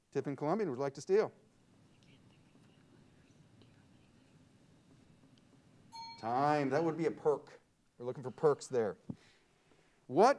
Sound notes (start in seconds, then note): 2.8 team whispering; 5.9 bell rings